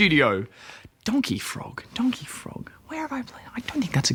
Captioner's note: whispers